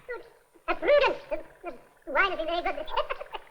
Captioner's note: tape fast forwarding